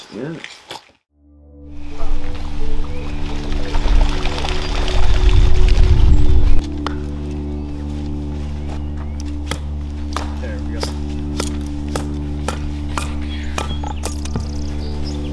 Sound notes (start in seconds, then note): 1.9 peaceful music; 3.2 birds flap; 3.7 water splashes; 9.8 wood bangs